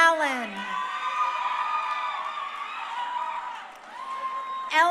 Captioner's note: crowd cheering